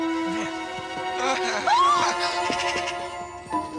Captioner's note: screams